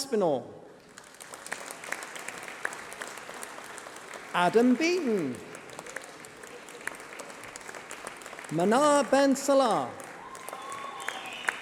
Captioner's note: applause